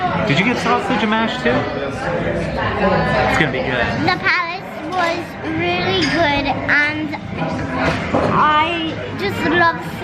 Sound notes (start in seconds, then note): none